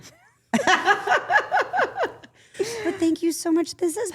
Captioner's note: group laughing